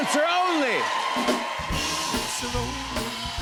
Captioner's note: cheers and applause